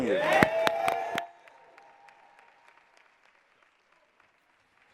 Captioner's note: audience clapping